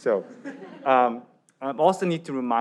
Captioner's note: audience laughs